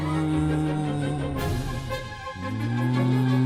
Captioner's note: dust ghouls booing in protest of cleaning